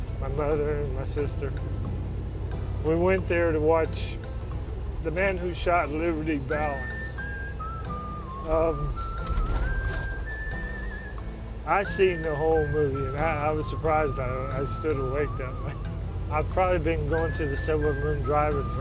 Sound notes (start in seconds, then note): 6.6 man whistling